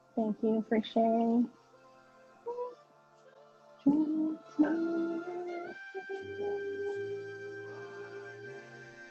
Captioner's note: humming